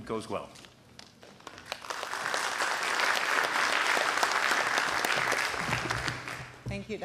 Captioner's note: applause